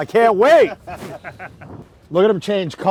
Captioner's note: all laugh